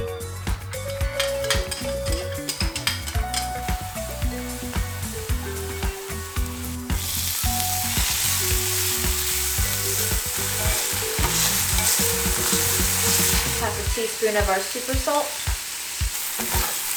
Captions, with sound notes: (bowl clattering) (gizzards sizzling) Half a tea spoon of our super salt.